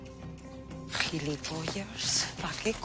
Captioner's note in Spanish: susurrando